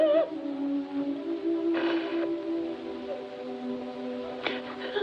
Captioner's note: sniffling, Sobbing